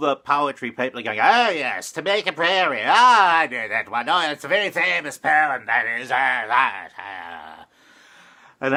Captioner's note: posh accent